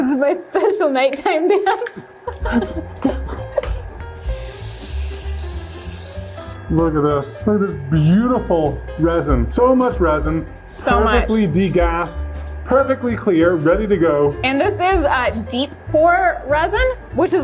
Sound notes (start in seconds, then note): 1.5 laughing; 4.1 spray can hissing